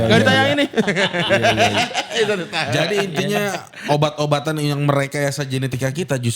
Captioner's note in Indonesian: tertawa